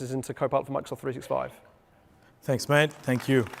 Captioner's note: applause